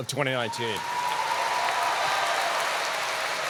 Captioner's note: applause